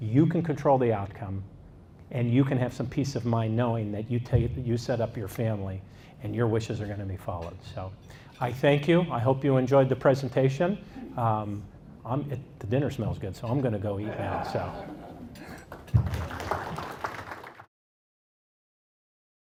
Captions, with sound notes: You can control the outcome. And you can have some peace of mind knowing that you set up your family, and your wishes are gonna be followed. I thank you, I hope you enjoyed the presentation. The dinner smells good, so I'm gonna go eat now. (audience laughs) (audience claps)